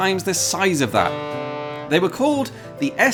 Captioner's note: honk